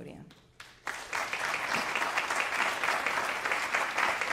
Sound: audience applauding

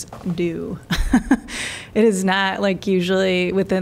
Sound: laughter

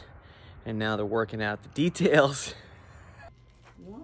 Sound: chuckles

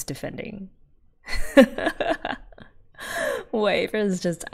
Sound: laughs

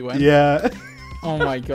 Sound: laughing

